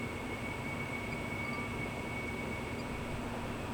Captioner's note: wind blowing